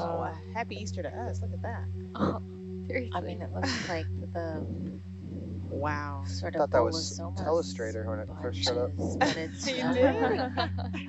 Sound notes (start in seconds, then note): 8.6 laughing